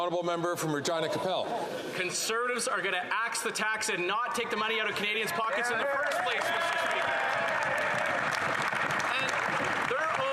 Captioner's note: some Applause